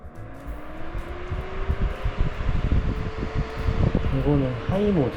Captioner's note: strong wind on and on